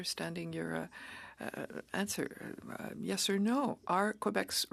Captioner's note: speaking French